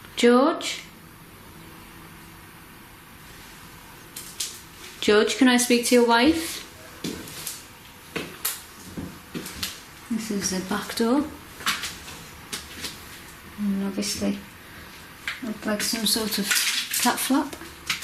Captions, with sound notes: George? George, can I speak to your wife? (footsteps) This is the backdoor. And obviously, looks like all sort of flop flop.